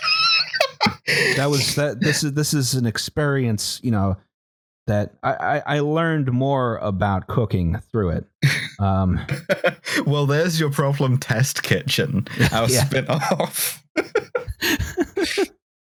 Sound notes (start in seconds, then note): 0.0 laughs with fervour; 9.2 laughs; 14.3 laughter